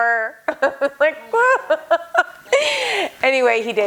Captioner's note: laughing